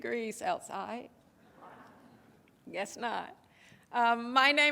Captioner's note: audience chuckles